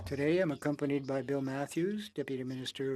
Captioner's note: speaking French